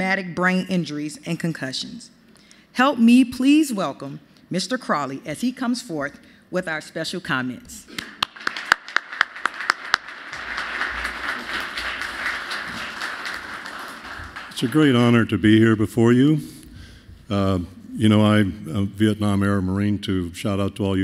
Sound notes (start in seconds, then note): 7.9 applause